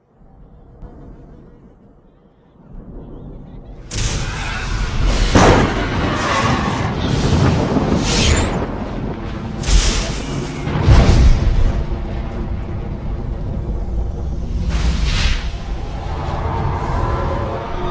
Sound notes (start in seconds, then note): 2.6 thunder & lightning; 2.6 ominous music